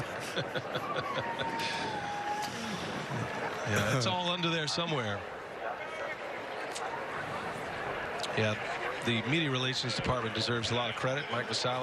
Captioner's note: laughing; laughing